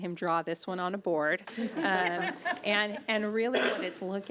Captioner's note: chuckling